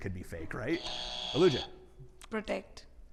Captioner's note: buzzer buzzing